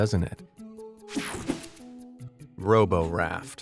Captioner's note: slide whooshes